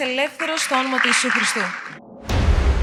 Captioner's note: applause